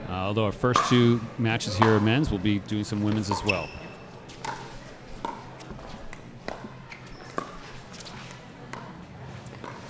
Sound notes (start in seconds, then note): 4.6 ball clacking